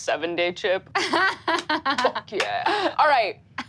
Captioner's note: laughs